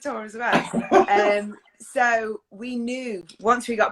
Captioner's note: laughs